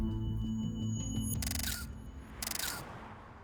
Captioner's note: <i> camera shutter clicking</i>